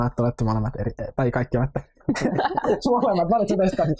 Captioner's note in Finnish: kaikki nauravat